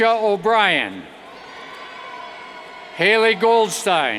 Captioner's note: cheers